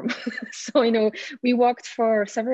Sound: laughing

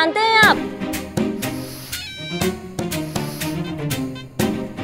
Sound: sniffs

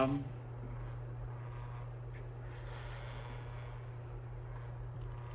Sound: machinery buzzes

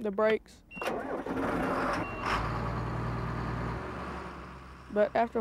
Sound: tractor Engine Running

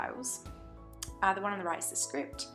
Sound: lip smack

